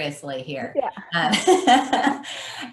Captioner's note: laughing